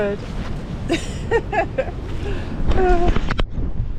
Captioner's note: laughing